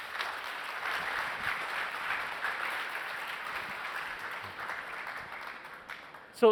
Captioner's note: applause